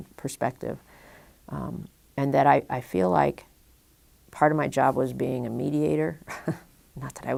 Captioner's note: chuckle